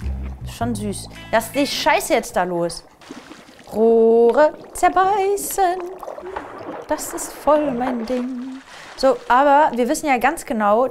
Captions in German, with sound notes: Schon süß. Lass die Scheiße jetzt da los. (singend:) Rohre zerbeißen. (Plätschern) Das ist voll mein Ding. So, aber wir wissen ja ganz genau,